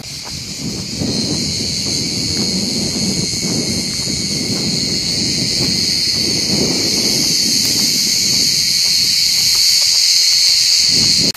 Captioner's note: sound of crickets